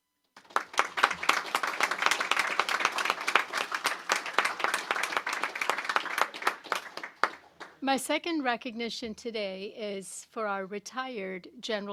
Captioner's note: applause